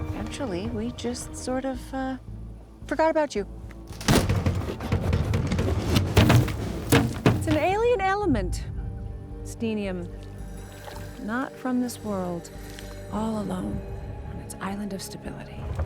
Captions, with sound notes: Actually, we just sort of, uh, forgot about you. (box rattles) It's an alien element, Steenium, not from this world. All alone on its island of stability